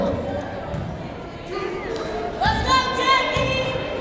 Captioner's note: yelling